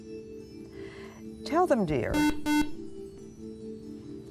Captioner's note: buzzer